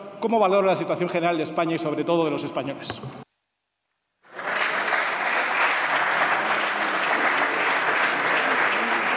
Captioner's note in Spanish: Aplausos